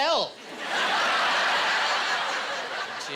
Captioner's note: laughing